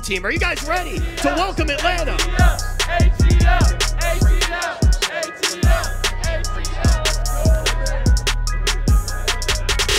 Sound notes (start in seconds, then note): 2.4 crowd; 6.7 lively hiphop music